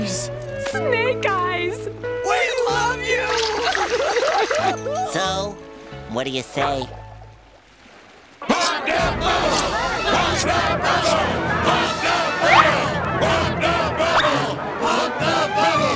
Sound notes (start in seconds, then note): 2.3 crying; 8.2 crowd chanting